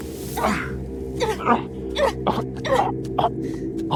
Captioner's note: Ashley grunting; Samuel grunting